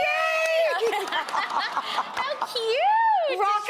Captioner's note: audience cooing